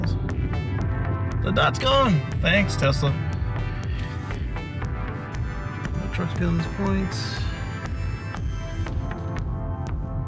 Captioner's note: sarcastically